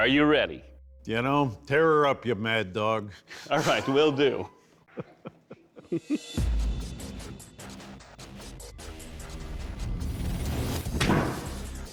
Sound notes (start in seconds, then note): 3.2 laughs; 3.3 chuckles; 6.0 tense music playing; 10.9 thuds